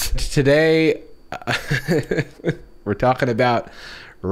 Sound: nervously laughs

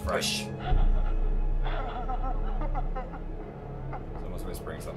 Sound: muffled crying

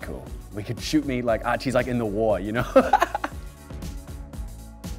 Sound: laughing

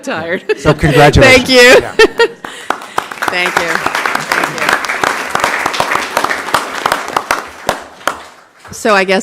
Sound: applause

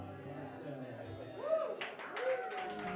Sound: applause

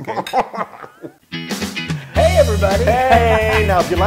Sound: laugh

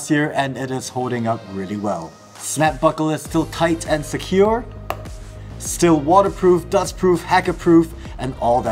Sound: snap

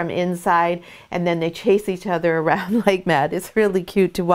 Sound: laughs

